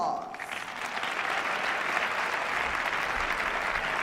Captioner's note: applause